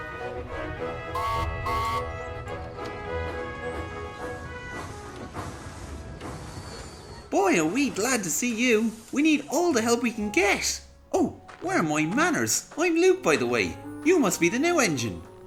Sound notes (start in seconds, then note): 1.1 mac whistles